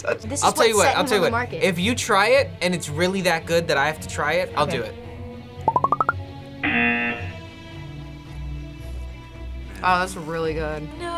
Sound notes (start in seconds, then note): 6.6 buzzer